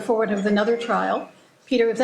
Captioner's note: phone ringing